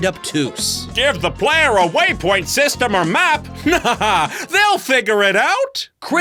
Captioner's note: mocking voice